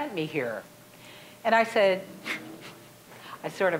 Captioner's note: chuckling